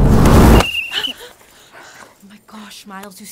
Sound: blowing whistle

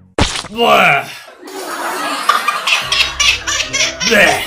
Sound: Isabella blows raspberry, laughs hysterically

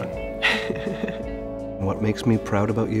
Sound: chuckles

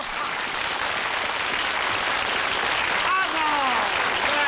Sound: applause

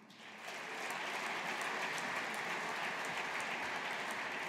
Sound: audience applauding

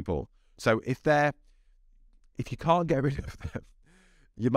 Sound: laughing

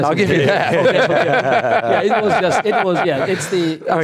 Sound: laughing

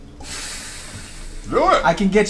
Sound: sighs

